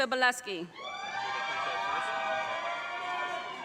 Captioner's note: audience cheers and applause